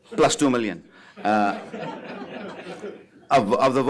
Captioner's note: laughter